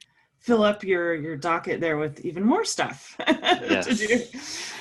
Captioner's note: laugh